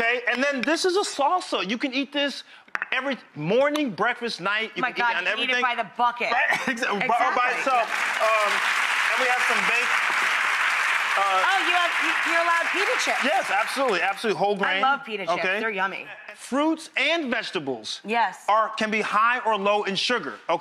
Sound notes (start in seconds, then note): 6.4 Ian laughs; 7.2 audience applause